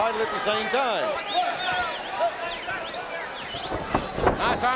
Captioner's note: audience cheering